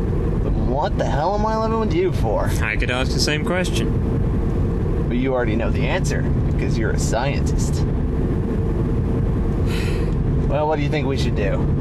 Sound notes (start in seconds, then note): 9.6 sighs